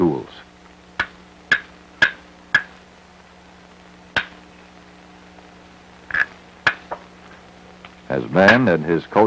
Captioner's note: sound of hammering rock